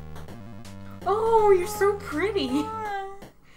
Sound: Blueheart is making "aww" sounds in the background

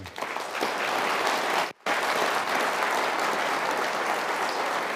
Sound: audience applauds

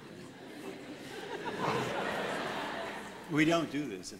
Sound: laughter

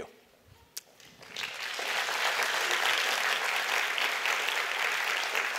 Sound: applause

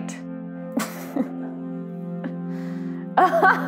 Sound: laughs

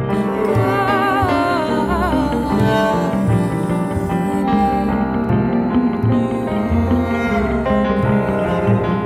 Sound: with background voices

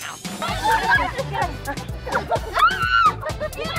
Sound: cheering

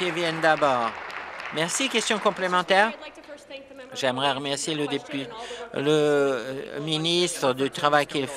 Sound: applause

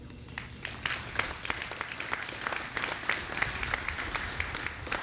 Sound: audience applauding

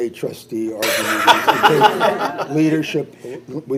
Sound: all laugh

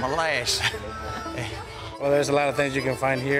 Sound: laughing

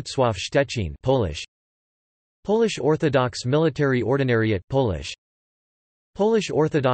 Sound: Polish

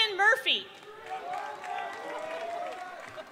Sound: applause

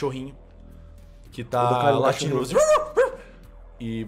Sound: woof woof

